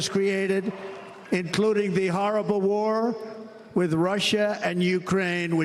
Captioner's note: applause